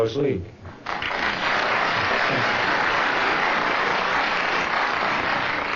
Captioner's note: audience applauding